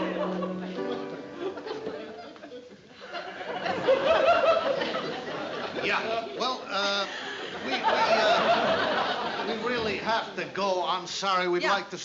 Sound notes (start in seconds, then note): 2.4 laughter